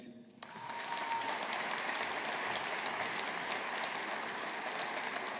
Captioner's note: audience applauding